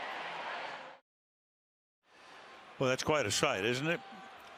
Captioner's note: cheering